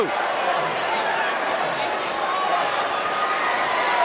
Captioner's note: crowd cheering